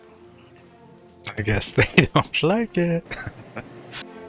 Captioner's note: chuckling